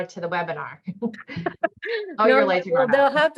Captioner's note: laughter